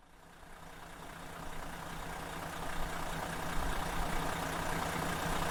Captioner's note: engine running